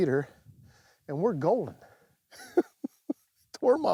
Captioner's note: laughs